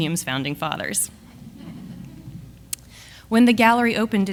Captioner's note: audience laughs